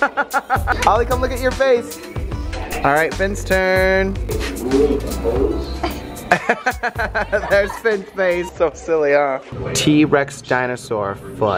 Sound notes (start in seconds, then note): 0.0 laughing; 4.2 laughing